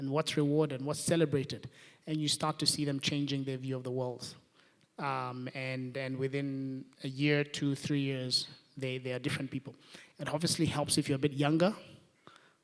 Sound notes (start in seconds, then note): none